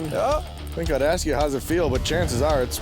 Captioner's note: voiceover